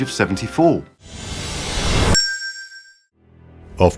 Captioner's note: whoosh & bell sound